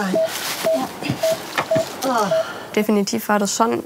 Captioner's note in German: Sie ächzen; Die Patientin stöhnt